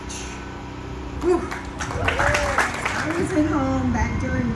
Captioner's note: audience claps